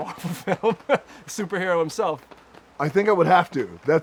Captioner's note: laughs